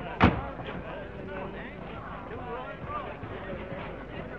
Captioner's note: door slams; crowd chattering